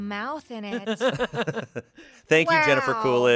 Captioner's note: laugh